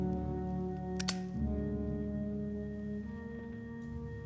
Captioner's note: lighter clicking; somber music